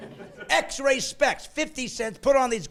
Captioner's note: laughing